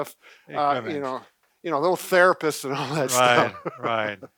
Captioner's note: laughs